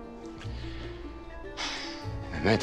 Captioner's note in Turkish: İç çekme sesi